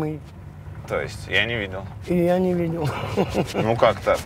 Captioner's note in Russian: смеётся